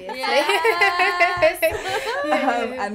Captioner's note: laughter